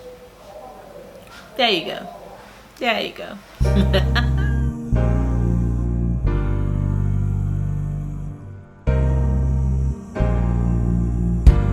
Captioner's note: laughs